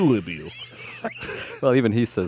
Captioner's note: laughs